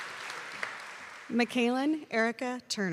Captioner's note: applause